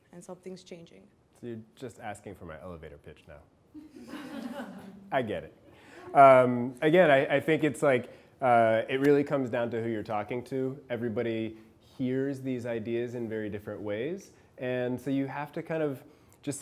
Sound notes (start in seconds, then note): 3.8 class laughing